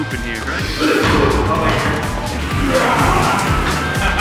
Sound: person coughs

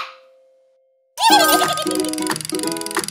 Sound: giggles

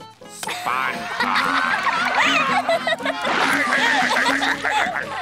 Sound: laughing

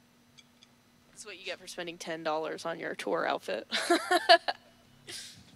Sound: laughs

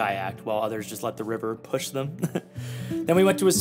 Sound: chuckles

